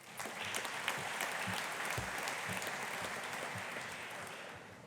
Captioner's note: audience applauding